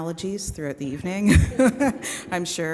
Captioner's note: chuckling; audience chuckling